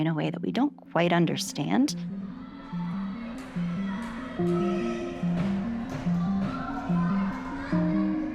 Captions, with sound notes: in a way that we don't quite understand. (gentle music) (players chattering)